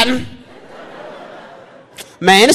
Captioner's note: audience laughing